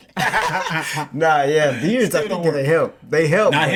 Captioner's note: laughing